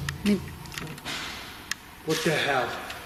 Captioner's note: clank